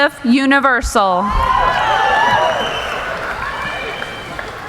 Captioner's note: cheering